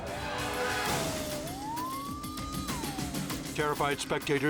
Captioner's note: sirens wailing